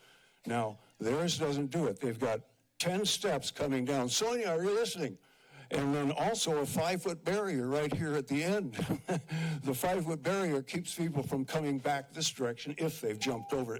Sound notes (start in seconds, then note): 8.7 chuckles